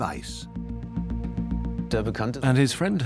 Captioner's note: dubbed in English